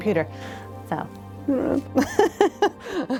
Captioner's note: laughs